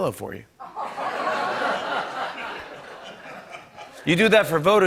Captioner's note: laughter